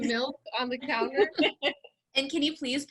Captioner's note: all laugh